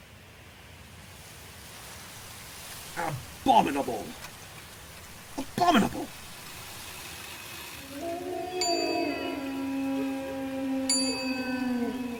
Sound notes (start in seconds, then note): 7.6 clock chimes